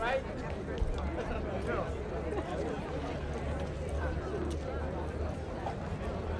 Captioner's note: indistinct chatter